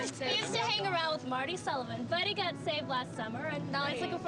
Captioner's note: crowd chattering